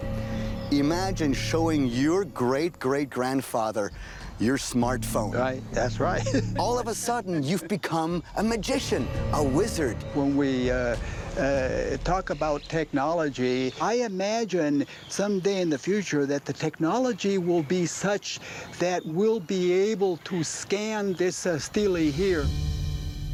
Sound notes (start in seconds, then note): 5.8 chuckles